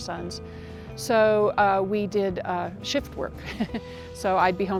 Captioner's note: laughs